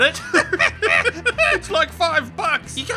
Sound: burst into a laugh

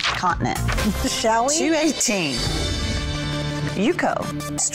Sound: chuckles

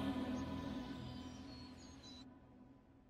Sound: birdsong

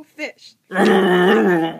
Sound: growling

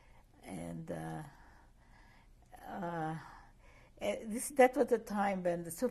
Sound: pauses for 3 seconds

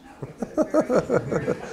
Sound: chuckling

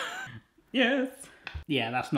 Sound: laugh

